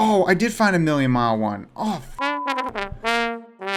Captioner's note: beep